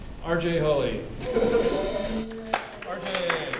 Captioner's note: applause